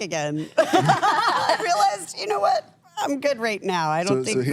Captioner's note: laughs